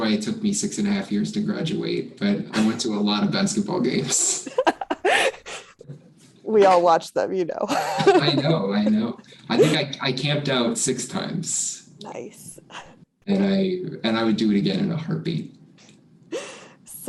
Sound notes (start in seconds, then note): 4.4 chuckles